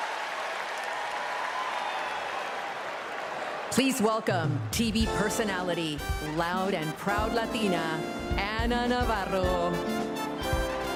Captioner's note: cheers and applause